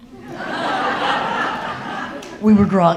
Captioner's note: audience laughing